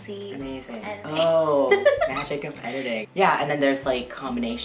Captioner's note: laughing